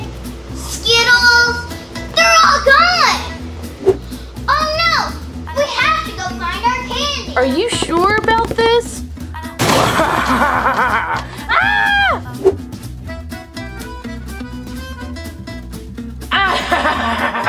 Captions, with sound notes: Skittles. They're all gone! Oh no, we have to go find our candy. - Are you sure about this? (laughs loudly) (screams) (laughs)